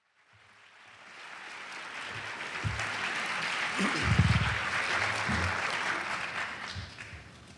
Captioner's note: applause